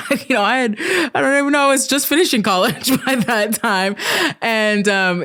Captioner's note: stammering; laughing